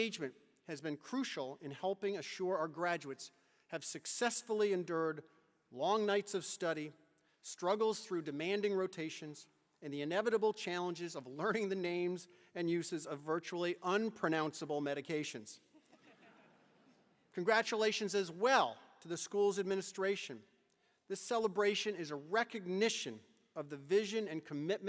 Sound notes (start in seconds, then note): 15.8 chuckles